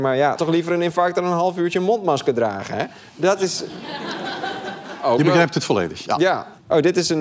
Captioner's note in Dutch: gelach